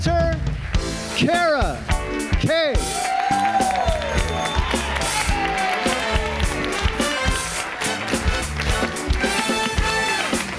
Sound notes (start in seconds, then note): 0.4 audience applauds; 3.7 audience cheers; 5.6 upbeat music